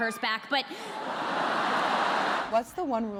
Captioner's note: audience laughing